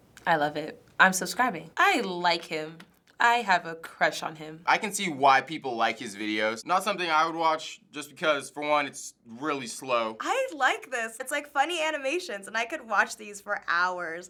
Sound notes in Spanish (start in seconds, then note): none